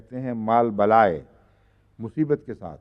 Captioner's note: Arabic